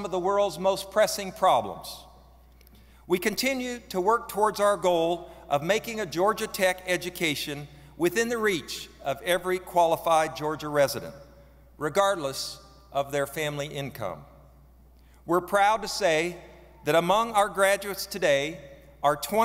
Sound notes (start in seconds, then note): none